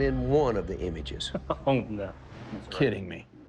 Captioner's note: laughs